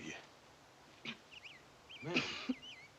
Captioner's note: coughing